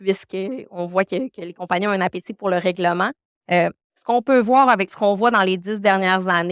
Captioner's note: continues speaking French